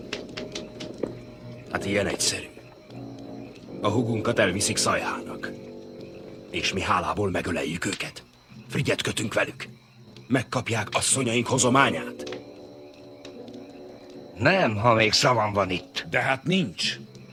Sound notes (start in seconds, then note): none